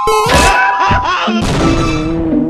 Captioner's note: explosion